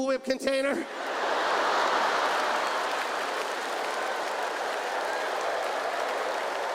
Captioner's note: audience laughs; audience applauds